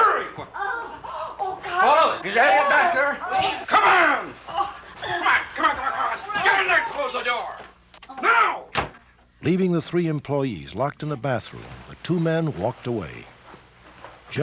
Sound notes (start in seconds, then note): 0.8 gasping